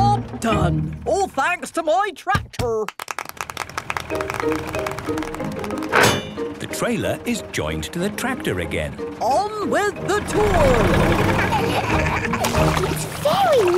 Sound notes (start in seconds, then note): 2.8 clapping; 10.7 laughing